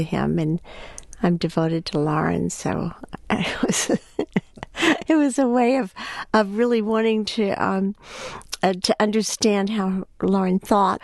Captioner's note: laughs